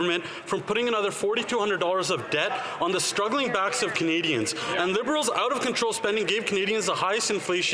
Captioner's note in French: voix de l'interprète